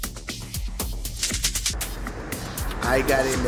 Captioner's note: rhythmic clicking